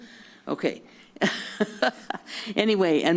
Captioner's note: laugh